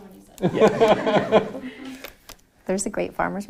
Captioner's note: laughing